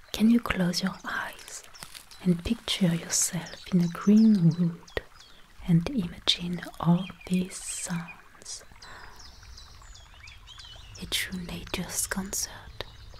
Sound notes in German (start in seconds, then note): 8.7 Seufzen